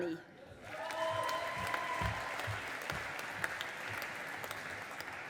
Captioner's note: audience applauding